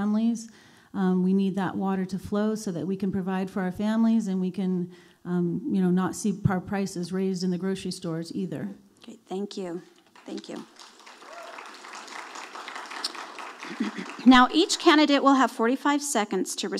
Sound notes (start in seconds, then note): 10.1 audience applauding